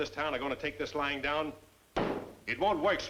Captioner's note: slaps desk